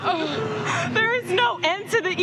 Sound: crying

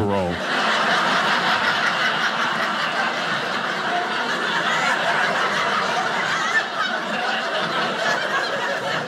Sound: audience laughing

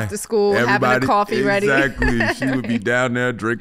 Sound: Amber laughing

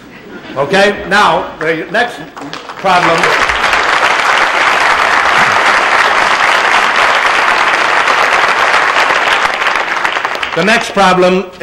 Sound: applause

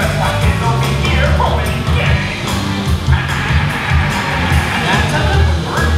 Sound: laughs

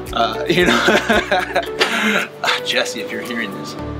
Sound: laughing

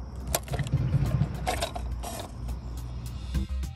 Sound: plug rattling

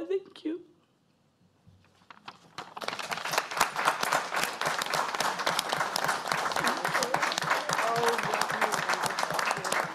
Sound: applause

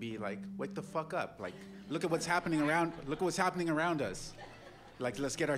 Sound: laughter

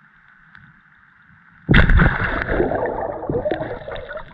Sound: water splash

